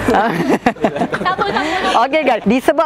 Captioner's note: laughing